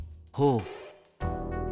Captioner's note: impressed hum